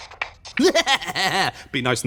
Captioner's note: cackles